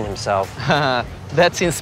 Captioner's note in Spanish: risas